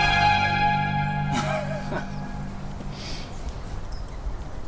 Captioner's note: laughing